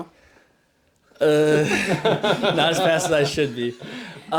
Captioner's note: laughs